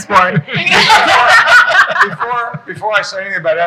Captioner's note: people laughing